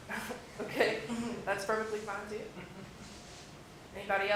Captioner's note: laugh